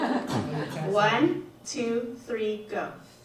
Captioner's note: audience laughs